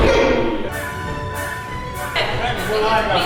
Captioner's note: screaming